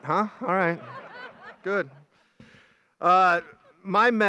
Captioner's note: graduates laugh